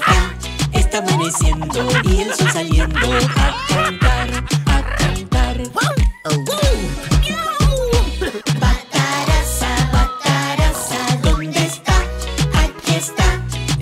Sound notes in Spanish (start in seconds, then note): 4.6 Sonido de perro y gato